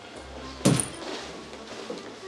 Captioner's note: thud